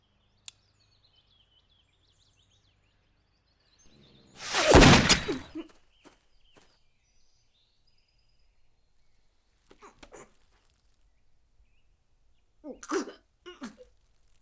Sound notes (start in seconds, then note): 4.4 gunshot; 12.7 coughs